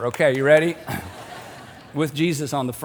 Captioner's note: audience laughing